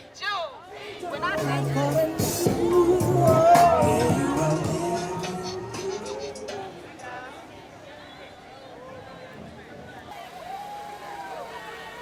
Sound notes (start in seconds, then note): 5.8 festive street ambience